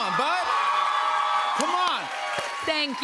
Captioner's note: cheers and applause